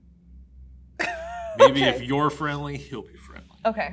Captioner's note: laughs